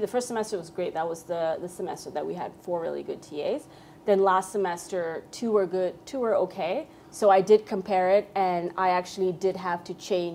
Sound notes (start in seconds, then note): none